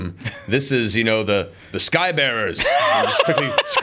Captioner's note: laughs